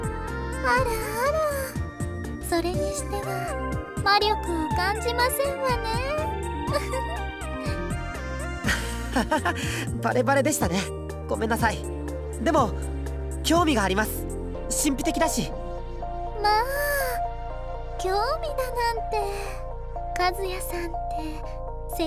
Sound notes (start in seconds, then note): 6.7 giggle; 8.6 laugh